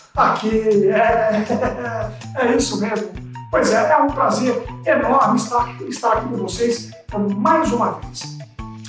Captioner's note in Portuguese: risadas